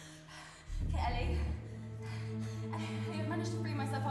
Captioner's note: gasping